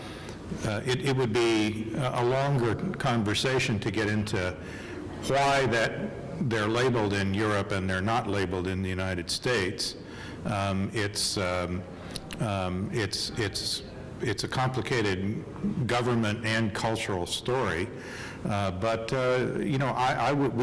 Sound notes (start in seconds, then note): none